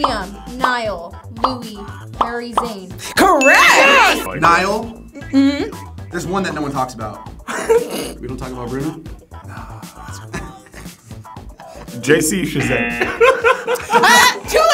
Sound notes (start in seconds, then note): 7.4 laughs; 9.5 sighs; 9.6 laughs; 12.6 wrong buzzer rings; 12.8 all laugh